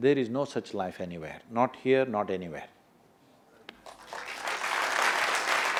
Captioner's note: applause